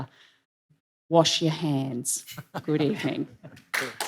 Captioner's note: applause